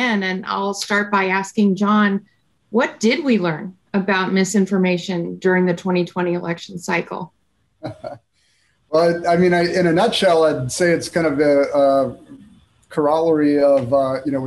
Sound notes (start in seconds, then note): 7.8 chuckles